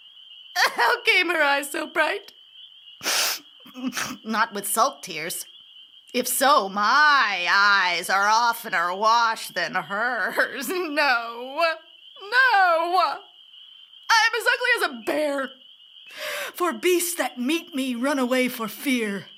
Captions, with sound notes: How came her eyes so bright? [Sniff] Not with salt tears. If so, my eyes are oft'ner washed than hers. No, no! I am as ugly as a bear, for beasts that meet me run away for fear.